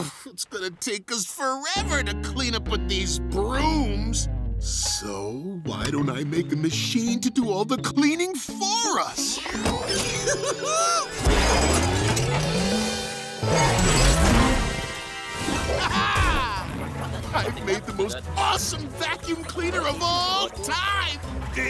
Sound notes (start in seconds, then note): 10.1 giggling